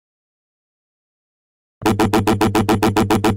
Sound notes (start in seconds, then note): 0.0 empty Sounds